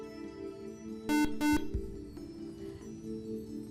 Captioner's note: buzzer